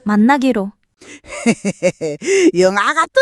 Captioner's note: grandma chuckles